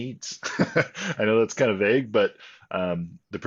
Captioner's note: laughs